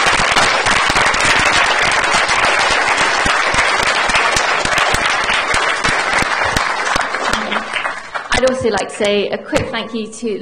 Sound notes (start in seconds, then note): 0.0 applause